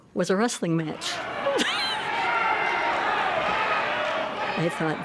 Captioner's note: audience cheering